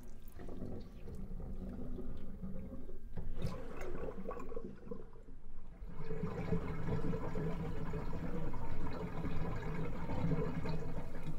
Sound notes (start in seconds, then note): 6.9 water drains